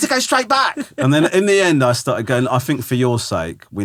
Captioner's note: laughing